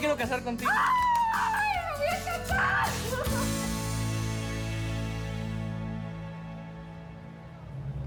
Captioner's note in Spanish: gritos y exclamaciones